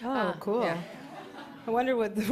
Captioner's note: laughter